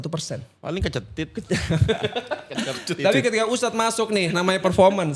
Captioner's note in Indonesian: tertawa